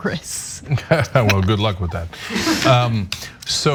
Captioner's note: laugh